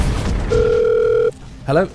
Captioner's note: phone rings